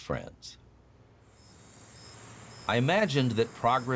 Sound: insects chirping

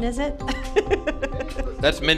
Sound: laughs

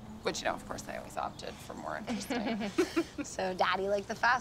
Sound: Cindy chuckles

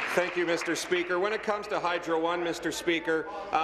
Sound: applause

